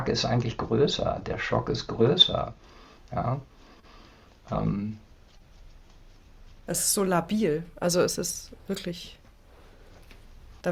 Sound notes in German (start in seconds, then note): none